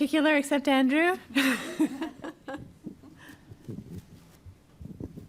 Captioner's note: laughs